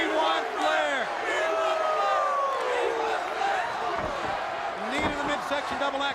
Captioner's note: crowd chatter